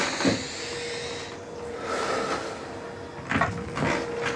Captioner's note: footsteps thumping; Billy deeply breathes